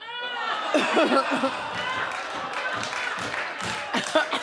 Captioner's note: audience laughing